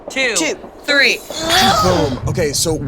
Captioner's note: moaning